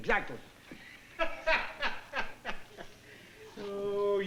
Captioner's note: laughter